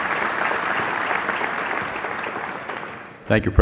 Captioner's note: cheering and Applause